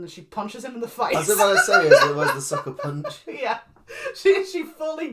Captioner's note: laughs